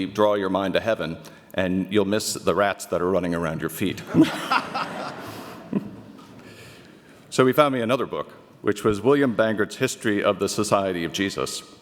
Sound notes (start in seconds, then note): 4.0 audience laughter